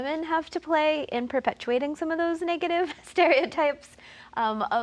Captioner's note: laughs